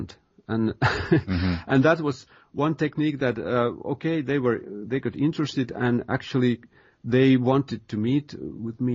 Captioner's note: chuckle